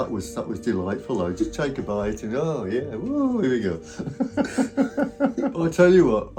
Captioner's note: laughs